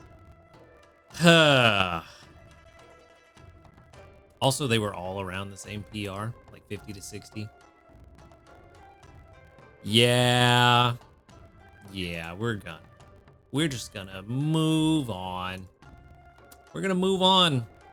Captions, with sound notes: (sighs) Also, they were all around the same PR, like 50 to 60. Yeah. Yeah, we're done. We're just gonna move on. We're gonna move on.